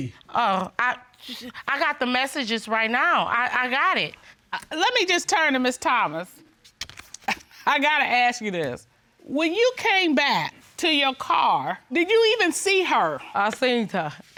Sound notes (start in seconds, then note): 7.1 scoffs